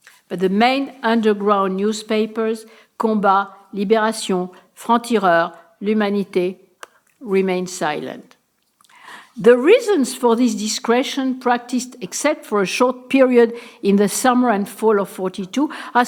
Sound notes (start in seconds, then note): 4.7 speaking french